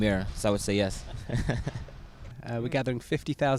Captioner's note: chuckling